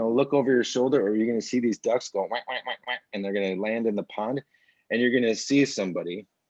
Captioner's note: quack noise